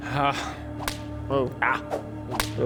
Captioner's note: thwack